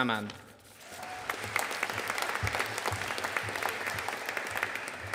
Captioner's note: audience applauding